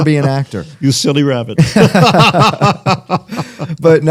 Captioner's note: laughter